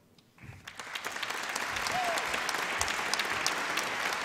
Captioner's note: applause